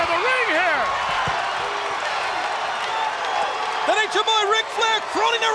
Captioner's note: audience cheers